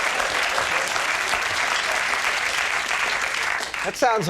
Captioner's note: audience clapping